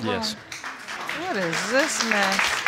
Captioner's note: applause